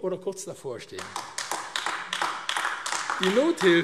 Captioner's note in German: Beifall AfD